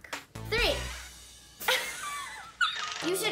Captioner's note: laughs